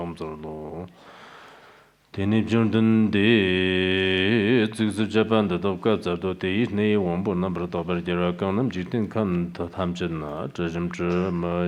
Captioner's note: giving oral transmission in Tibetan